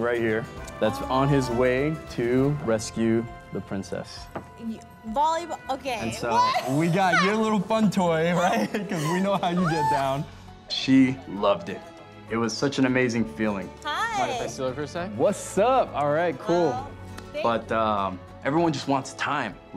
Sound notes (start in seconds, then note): 6.2 laughs; 8.1 laughing